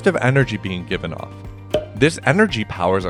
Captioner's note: pop